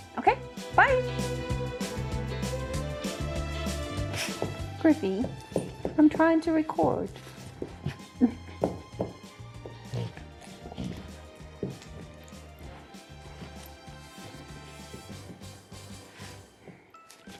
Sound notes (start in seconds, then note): 1.4 cheerful music; 4.0 dog sneezing